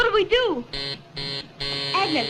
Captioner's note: door buzzer